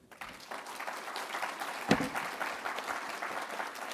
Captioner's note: audience applauding